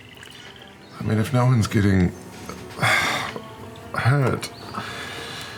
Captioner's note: sighs